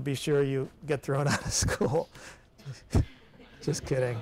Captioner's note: chuckles